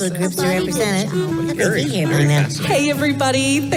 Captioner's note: chattering